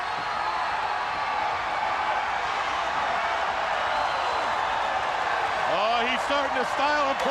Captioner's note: crowd chatter